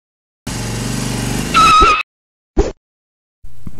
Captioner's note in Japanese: エンジン音